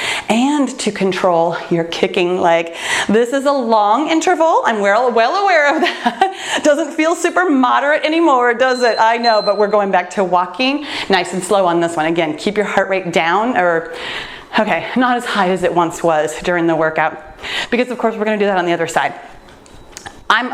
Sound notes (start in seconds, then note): 6.1 laughs; 8.6 timer beeps